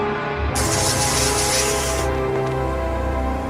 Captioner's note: electric shock